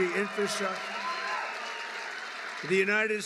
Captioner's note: applause